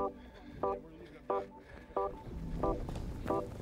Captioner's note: panting